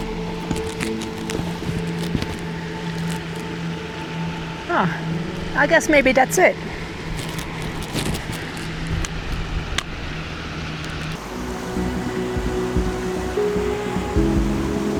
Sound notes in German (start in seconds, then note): 7.2 Bachrauschen